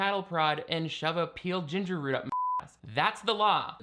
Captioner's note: beeping